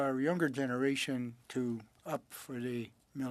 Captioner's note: speaking French